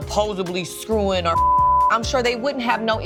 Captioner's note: beep